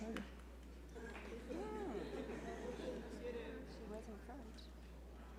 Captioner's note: audience and faculty background chatter